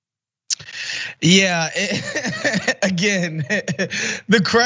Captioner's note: laugh